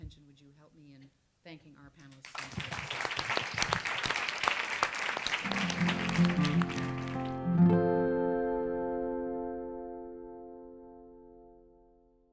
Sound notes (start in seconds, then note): 2.2 audience applauds; 5.5 light music